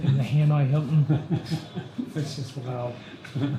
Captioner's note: chuckling